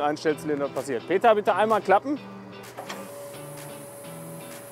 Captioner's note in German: Maschine klappt ein